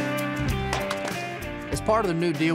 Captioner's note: wood crumbling; thud